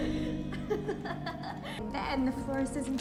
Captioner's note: laughing